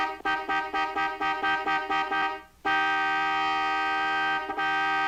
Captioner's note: horn Beeping